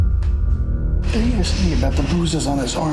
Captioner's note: Carol shudders